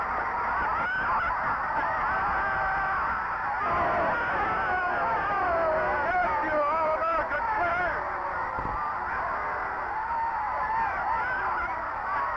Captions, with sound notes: (crowd shouting) - Get up you All-America quitter.